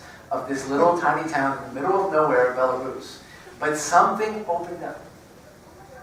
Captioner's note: none